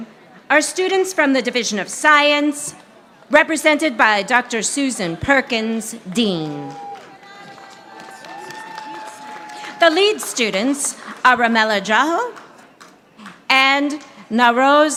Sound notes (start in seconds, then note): 7.6 audience applauding